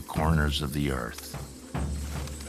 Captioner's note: bird wings flapping